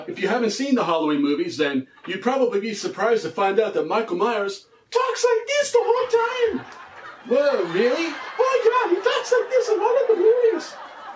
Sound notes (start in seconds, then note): 6.1 in squeaky voice; 8.4 still in squeaky voice